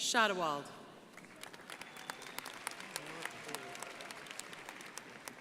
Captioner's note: crowd applauding